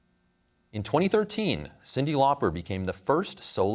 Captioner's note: none